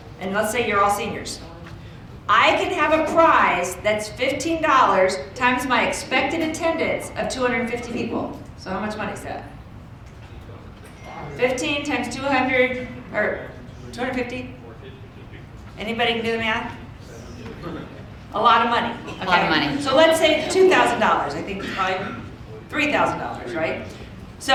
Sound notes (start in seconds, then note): 11.1 audience chattering; 11.1 phone dinging